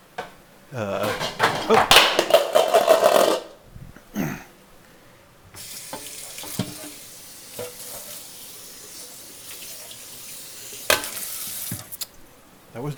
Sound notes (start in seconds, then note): 0.0 food sizzling; 1.0 lid clatters; 1.0 lid clicks; 4.0 throat clearing; 5.7 water rushing; 10.9 lid clanks